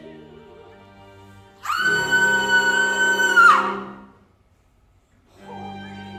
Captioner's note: Queen screams